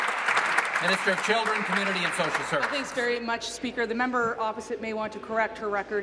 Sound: applause

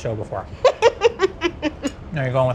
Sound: laughs

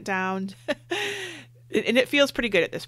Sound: laughs

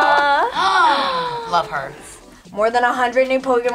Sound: both gasp

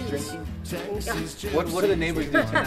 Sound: laughs

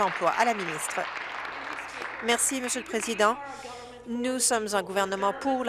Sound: applause

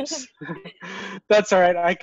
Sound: laughs

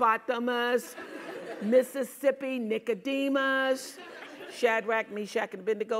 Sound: laugh

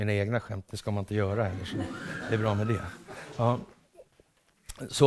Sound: laughter

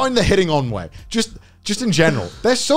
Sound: laughing

